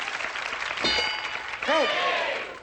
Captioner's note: ding